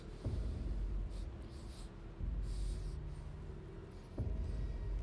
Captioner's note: ominous music; heavy breathing